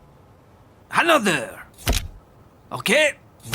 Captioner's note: camera flash clicking